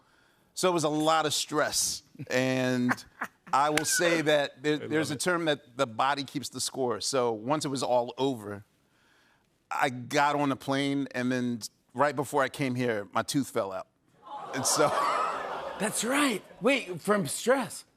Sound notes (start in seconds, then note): 14.7 audience awws